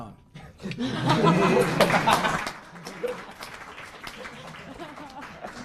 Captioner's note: laughter